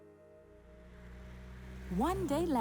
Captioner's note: car engine rumbling